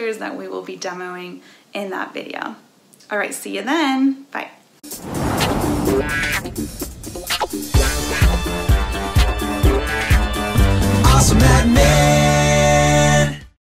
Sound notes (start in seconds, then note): 4.8 air whooshes; 5.3 upbeat music